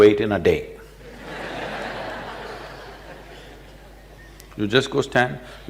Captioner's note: laughter